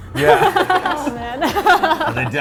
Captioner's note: laughs